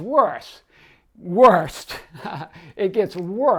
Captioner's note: laughing